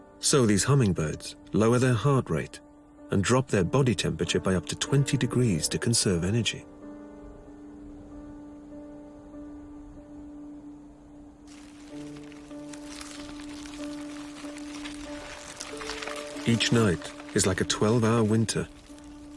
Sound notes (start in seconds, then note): 7.0 somber music; 11.4 ice crackling